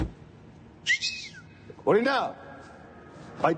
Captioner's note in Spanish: Chiflido